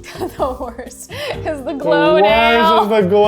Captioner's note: laughing